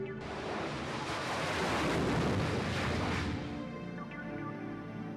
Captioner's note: engine roaring